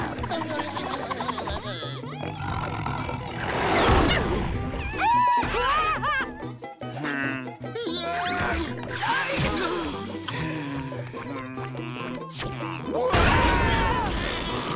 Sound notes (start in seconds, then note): 0.3 groaning; 2.2 growling; 4.8 screaming; 6.9 sighing; 6.9 grunting; 10.3 groaning